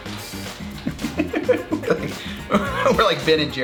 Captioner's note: laughs